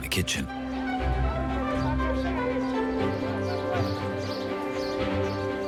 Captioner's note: speaking foreign language